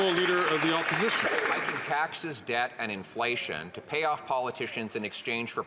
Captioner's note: some Applause